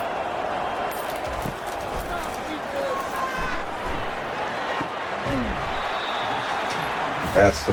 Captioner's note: crowd Noises